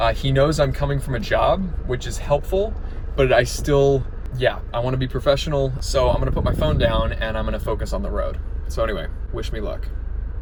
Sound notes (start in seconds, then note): none